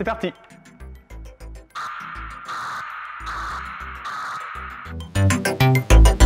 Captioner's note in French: son sshrrr sshrrr sshrrr